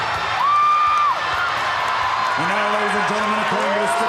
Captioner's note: crowd chattering